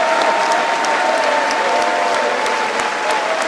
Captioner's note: cheering and applause